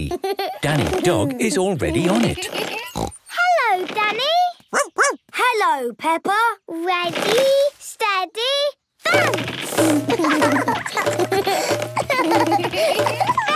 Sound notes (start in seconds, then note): 2.8 snorts; 4.7 barks; 9.8 both laugh